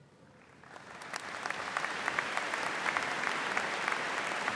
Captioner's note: audience applauding